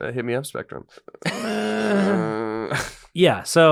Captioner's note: laughter